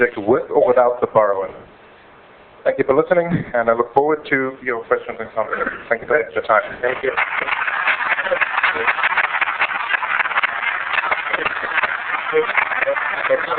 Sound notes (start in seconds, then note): 6.8 applause